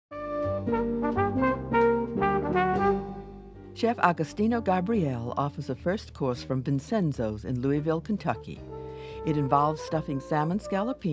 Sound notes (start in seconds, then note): 0.5 light jazz music; 4.1 voiceover